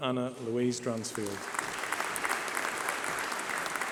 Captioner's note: applause